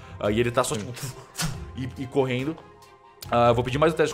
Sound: cutting sounds

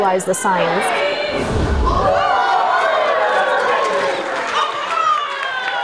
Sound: students counting down followed by applause

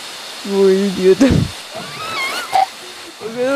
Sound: Seiya: *laughs

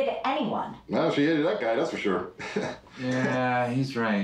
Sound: laughs

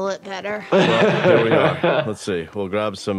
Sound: laughs

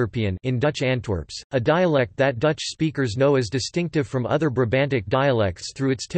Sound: in Dutch Antwerps

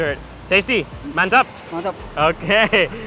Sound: speaking in foreign language

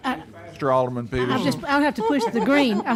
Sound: laughing

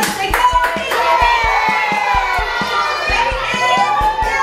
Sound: kids cheering

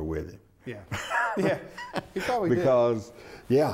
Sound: laughs

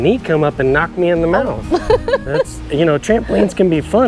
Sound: laughs

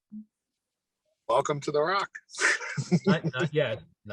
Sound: laughs

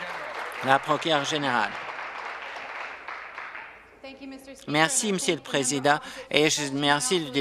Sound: applause

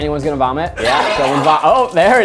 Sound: vomit noises

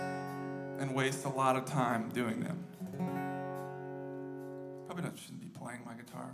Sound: background Chatter

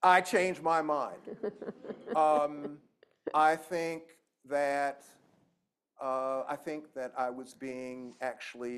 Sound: laughter

